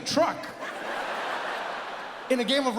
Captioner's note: audience laughs